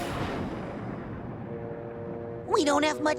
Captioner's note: thunderclap